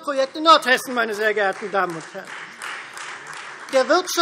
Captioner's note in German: Beifall Freie Demokraten